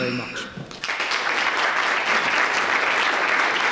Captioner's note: clapping